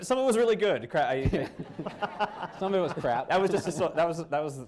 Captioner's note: laughter